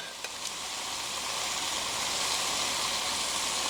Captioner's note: sizzling